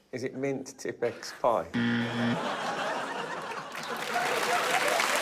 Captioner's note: laughter; wrong buzzer sound; laughter